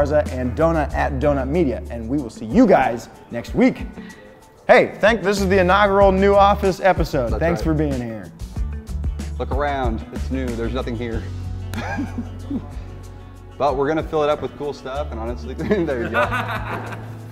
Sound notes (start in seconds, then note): 8.5 instrumental music; 11.7 laughter; 15.6 laughter